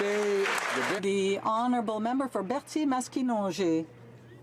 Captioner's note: some Applause